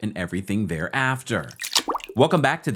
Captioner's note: water drips